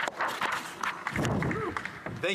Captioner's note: applause